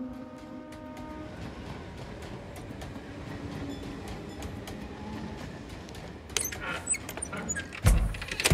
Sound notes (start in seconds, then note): 0.0 clickety clack of train